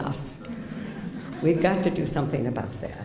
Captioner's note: laughter